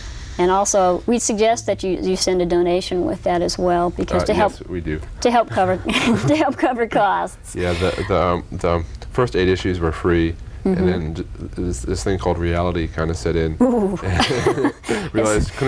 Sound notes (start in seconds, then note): 5.1 laughs; 14.0 laughter